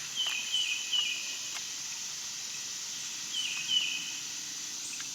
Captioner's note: birds and bugs chirping